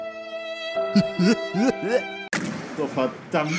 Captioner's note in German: lacht